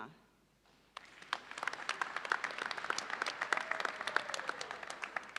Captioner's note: audience applauds